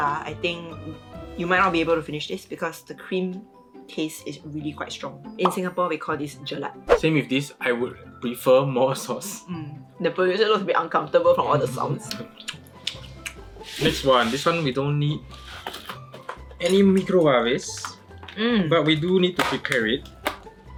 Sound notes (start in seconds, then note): 12.1 chewing sounds